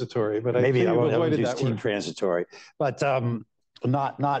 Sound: laughter

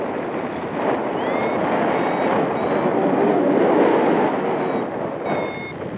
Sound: strong wind gusts; alarm continues

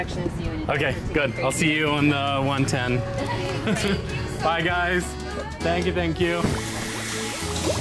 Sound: laughter

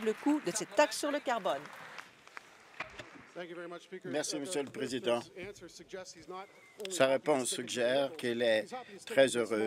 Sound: applause

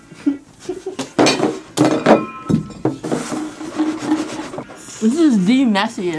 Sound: dishes clattering

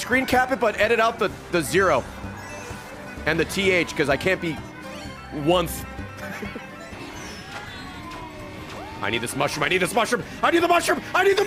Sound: laughs

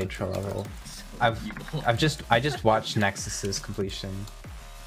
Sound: laughing in the background

